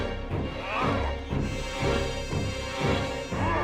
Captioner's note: grunts